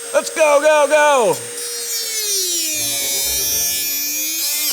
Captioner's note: power tool whirs